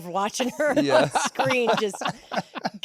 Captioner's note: laughs